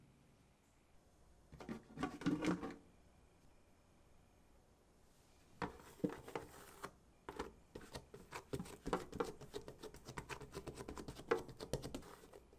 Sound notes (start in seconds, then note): 9.4 folding